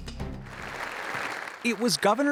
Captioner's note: applause